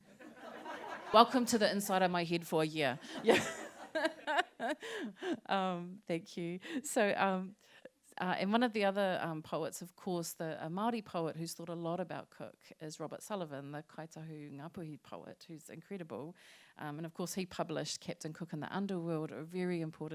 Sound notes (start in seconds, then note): 0.1 laughter; 3.1 laughter